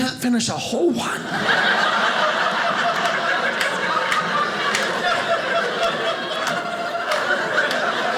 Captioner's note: audience laughing